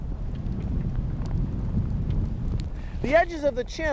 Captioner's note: rumbling